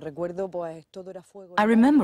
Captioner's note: speaking Spanish